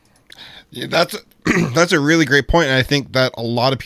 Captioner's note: clears throat